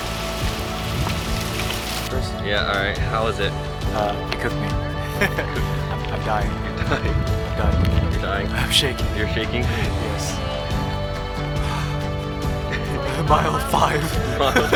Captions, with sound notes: Yeah, all right. How was it? Uh, it cooked me. [Laughter] I'm dying. I'm dying. I'm dying. I'm shaking. You're shaking? Yes. Mile 5...